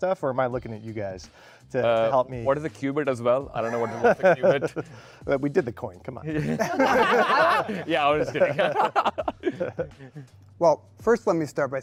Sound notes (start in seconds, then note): 6.4 panelists laughing; 9.9 laughs